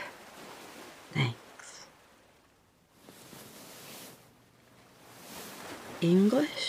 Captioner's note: rustling